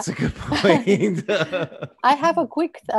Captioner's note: laughing